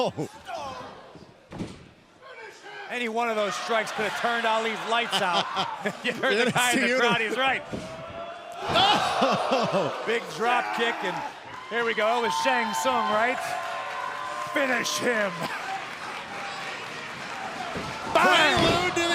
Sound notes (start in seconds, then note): 8.9 laughter